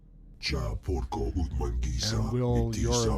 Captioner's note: speaking foreign language